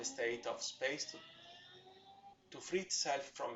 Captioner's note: distant motorbrike sound